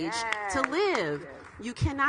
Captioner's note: audience clapping; clapping